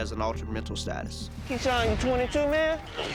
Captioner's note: swoosh